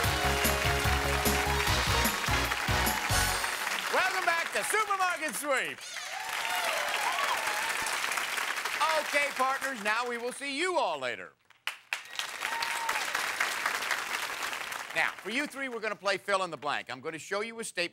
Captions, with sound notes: (upbeat music) -Welcome back to "Supermarket Sweep"! (cheers and applause) Okay, partners, now we will see you all later. Now for you three, we're gonna play Fill in the Blank.